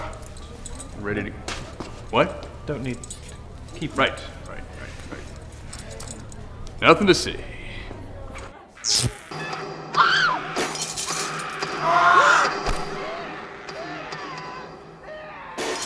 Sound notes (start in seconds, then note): 8.3 screams distantly